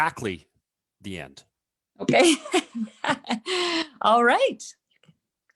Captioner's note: laughs